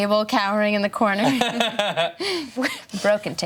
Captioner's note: laughing